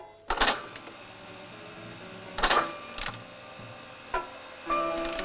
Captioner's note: machine whirring